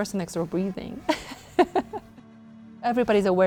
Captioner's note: laughing